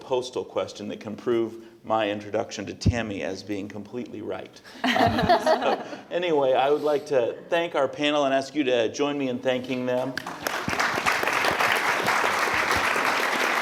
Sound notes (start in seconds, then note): 9.1 chuckles